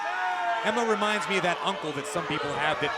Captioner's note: crowd cheering